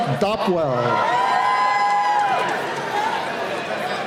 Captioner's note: cheering